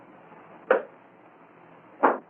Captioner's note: thud